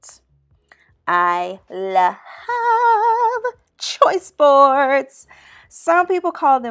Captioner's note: in a singing voice